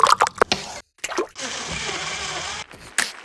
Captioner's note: blender whirring